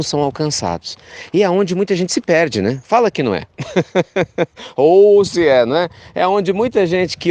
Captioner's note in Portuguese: risos